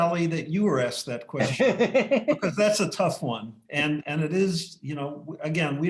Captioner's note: laughter